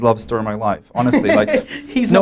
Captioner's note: laughter